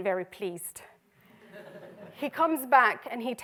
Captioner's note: audience laughter